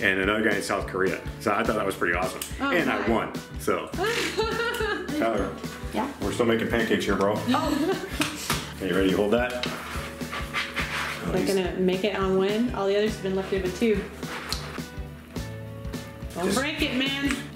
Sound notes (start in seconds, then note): 4.0 laughing